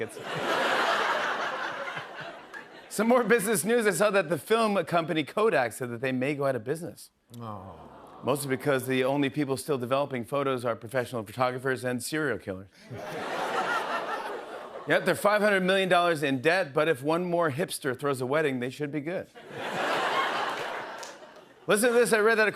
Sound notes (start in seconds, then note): 0.0 laughter; 7.4 audience awws; 12.8 laughter; 19.4 laughter